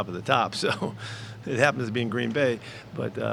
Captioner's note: laughs